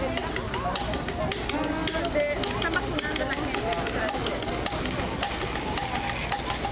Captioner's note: chatter